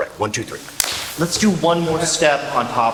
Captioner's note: clap